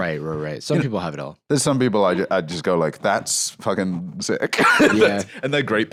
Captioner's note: laughs